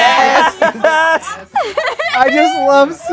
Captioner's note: group laughs